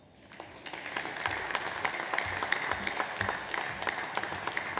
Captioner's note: audience applauds